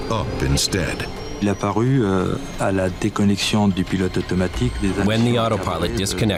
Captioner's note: speaking in French